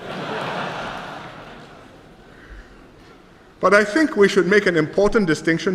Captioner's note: laughter